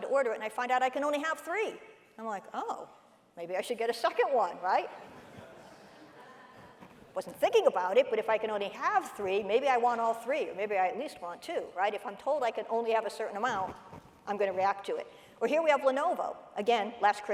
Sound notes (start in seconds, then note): 5.2 audience laughing